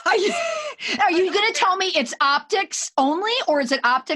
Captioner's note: laughing; laughs